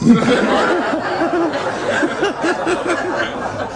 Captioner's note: laughter